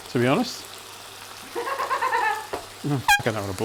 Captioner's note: laugh